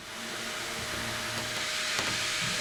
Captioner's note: machine noise